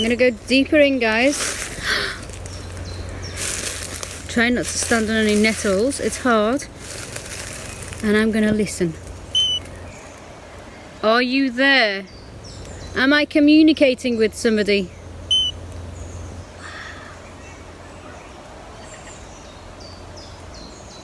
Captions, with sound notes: I'm gonna go deeper in guys. (inhales) (birds chirping) (leaves rustling) Try not to stand on the nettles, it's hard. And I'm gonna listen. (beep) Are you there? Am I communicating with somebody? (beep) Wow. (birds chirping)